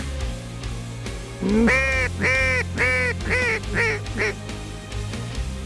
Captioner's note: duck calls